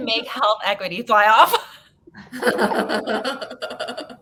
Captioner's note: laughing